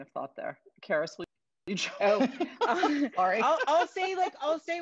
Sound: laughs

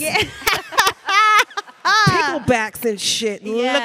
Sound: panelists laughing; chuckles

